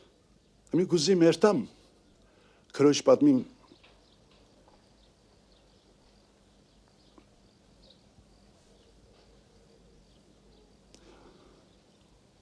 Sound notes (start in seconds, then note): 3.5 chirping